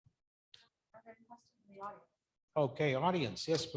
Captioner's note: faintly speaking